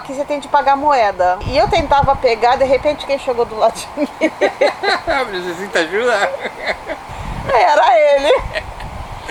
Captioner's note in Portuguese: risos